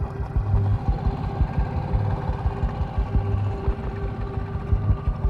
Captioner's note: boat engine droning